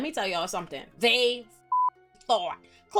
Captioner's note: beep